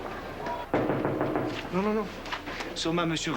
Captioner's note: Coups à la porte